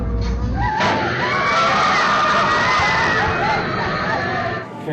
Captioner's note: riders scream